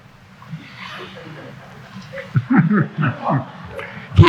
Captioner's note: chuckling